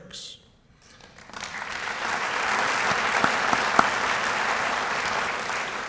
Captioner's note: applause